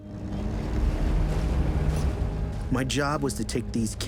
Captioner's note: engines rumbling